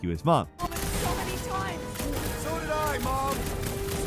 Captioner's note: guns firing